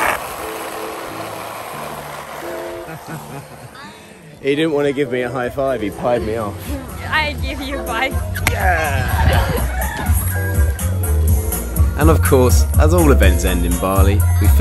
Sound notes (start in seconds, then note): 2.7 laughs; 9.3 upbeat music